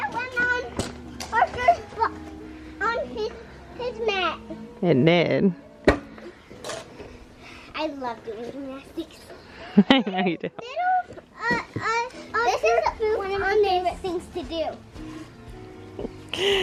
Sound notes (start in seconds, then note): 9.6 laughs; 11.0 small child's voice is drowned out